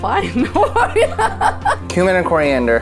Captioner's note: both laugh